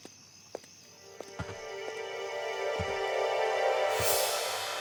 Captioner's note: footsteps